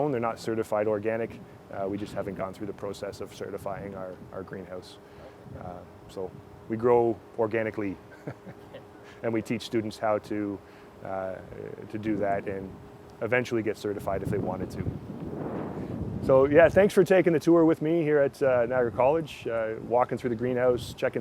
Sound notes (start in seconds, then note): 8.1 laughs